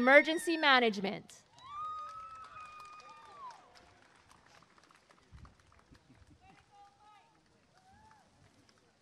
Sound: applause and cheering

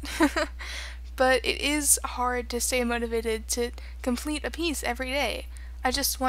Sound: laughter

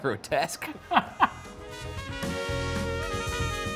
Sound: laughs; upbeat jazz music

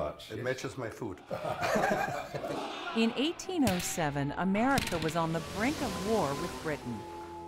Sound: laughter

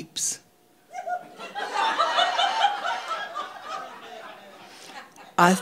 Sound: audience laughing

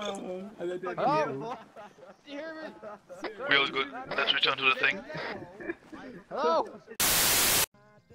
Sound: commotion

